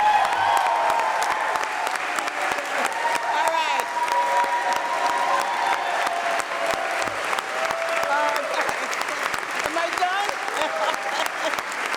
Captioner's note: cheers and applause